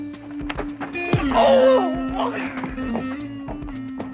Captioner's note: groaning